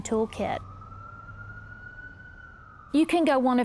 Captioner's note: siren wailing